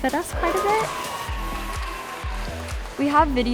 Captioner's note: audience cheering and applauding